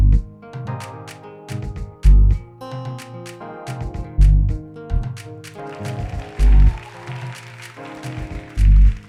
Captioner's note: applause